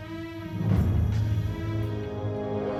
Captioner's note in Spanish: none